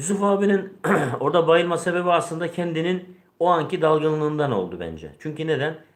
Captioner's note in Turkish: boğazını temizler